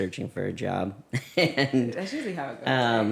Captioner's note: laughs